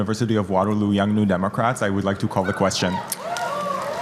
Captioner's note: applause